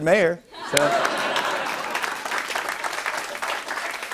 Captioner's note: laughter and applause